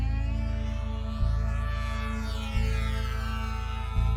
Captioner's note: UAV buzzing